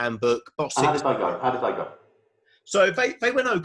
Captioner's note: murmurs